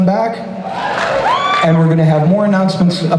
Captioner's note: crowd cheers